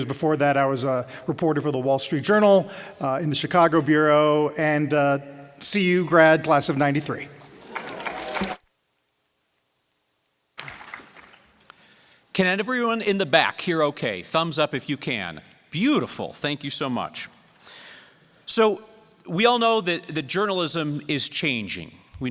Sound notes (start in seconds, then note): 10.5 applause